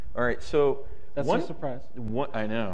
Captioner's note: laughs